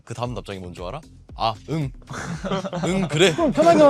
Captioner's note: laughs